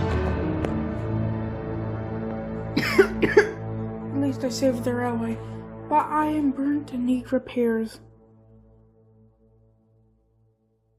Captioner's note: coughs